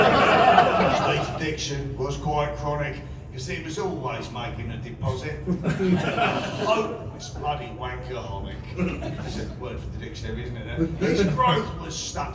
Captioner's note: laughter; laughter